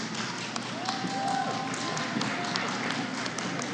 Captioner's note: applause